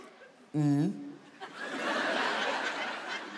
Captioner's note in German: Lachen